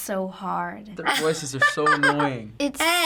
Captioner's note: laughs